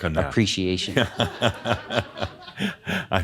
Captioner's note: Adamus chuckles